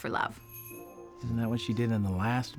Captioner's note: doorbell jingles